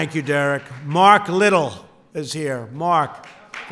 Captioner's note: applause